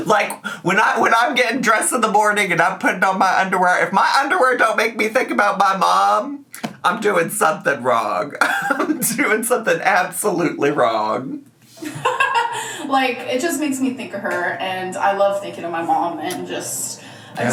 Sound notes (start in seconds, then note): 8.4 laughs; 11.8 laughs